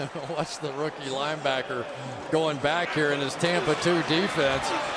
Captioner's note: chuckles